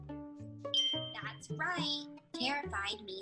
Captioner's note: bell dings